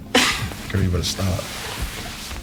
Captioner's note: Princess laughing